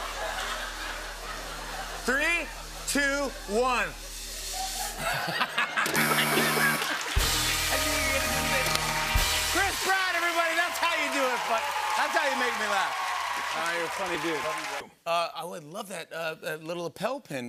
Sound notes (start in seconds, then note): 0.0 laughter; 4.3 laughs; 5.9 buzzer; 8.4 cheers and applause